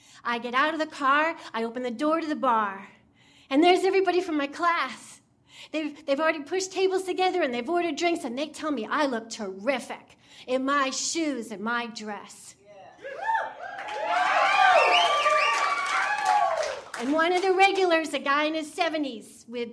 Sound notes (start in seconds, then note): 13.0 audience cheering